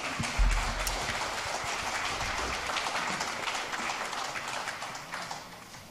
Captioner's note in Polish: oklaski